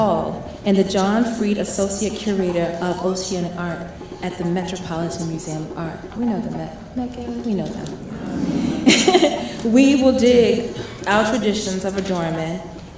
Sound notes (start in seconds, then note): 8.0 crowd laughs; 8.2 laughs